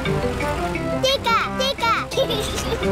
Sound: giggles

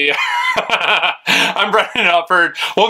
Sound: laughing

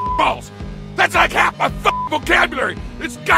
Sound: beep; beep

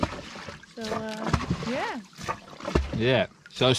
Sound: water lapping

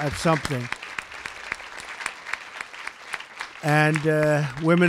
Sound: applause

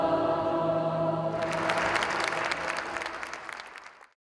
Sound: audience clapping

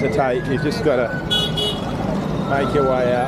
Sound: car horn

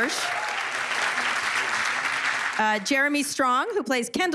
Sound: cheers and applause

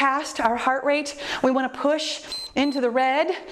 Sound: timer beeps

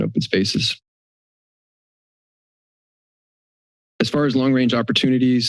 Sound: silence

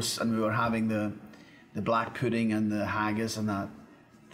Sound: none

